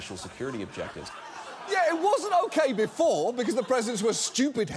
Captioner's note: studio audience laughing